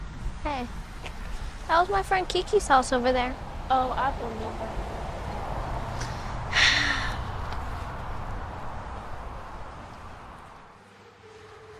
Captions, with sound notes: - Hey, that was my friend Keke's house over there. - Oh, I remember. (Sarah sighing)